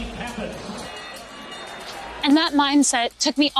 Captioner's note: bell ringing